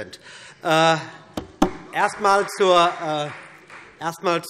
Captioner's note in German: Vereinzelter Beifall BÜNDNIS 90/DIE GRÜNEN und Freie Demokraten